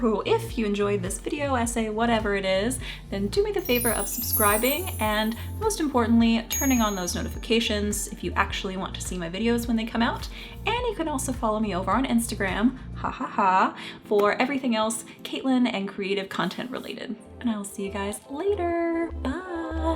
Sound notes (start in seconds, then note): 6.5 bell chimes